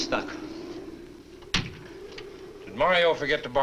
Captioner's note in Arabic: يغلق الباب